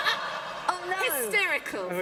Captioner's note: laughter